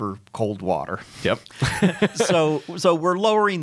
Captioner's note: laughs